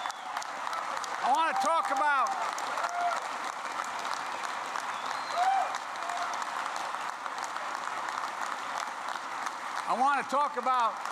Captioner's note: applause